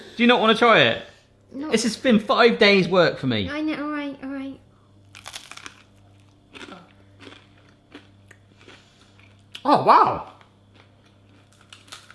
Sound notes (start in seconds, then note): 5.1 crunching; 7.1 munching